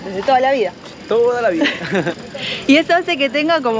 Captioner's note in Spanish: risas